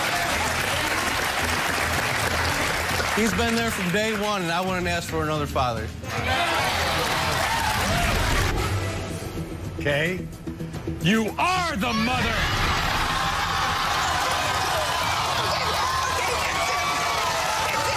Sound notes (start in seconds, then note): 2.3 applause; 9.1 applause; 15.4 cheers